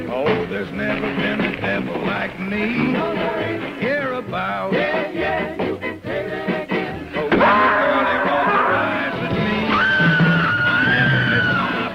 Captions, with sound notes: Oh, there's never been a devil like me! No there ain't! Hereabouts! Yeah! Yeah! You can say that again! (screams) (screams)